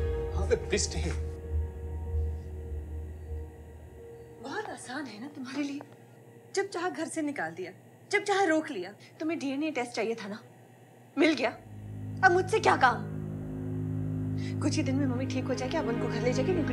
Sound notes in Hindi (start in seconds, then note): none